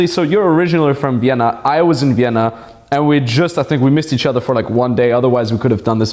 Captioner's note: none